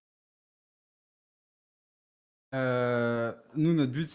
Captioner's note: long silence